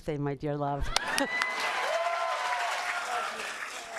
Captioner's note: cheers and applause